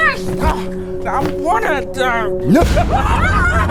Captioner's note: grunts; laughs evilly; hanseli, gretala scream